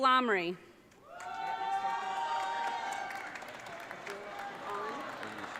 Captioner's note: audience cheering